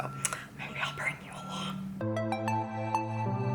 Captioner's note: whispering; upbeat music